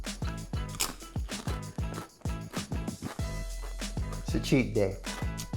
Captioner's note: chip crunches